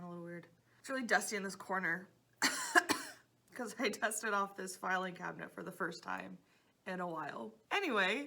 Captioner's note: coughing